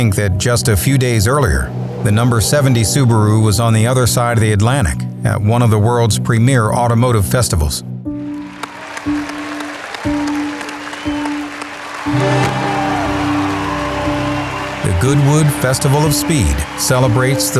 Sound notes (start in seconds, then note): 8.3 cheering; 8.3 clapping